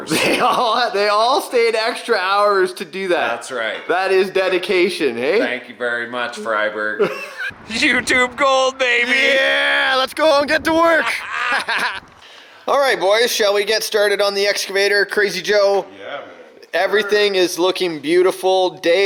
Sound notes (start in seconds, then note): 10.4 laughing